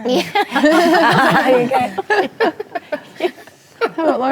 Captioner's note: ladies laughing